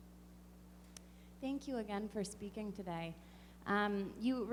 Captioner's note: voiceover